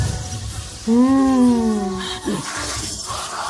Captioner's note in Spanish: Sonido de hambre